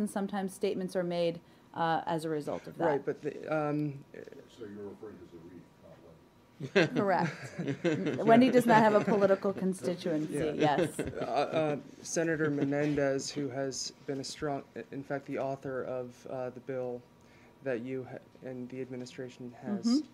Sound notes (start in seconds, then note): 6.6 laughter